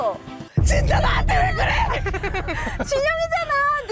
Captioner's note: thud sound effect